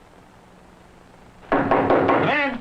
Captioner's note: knocking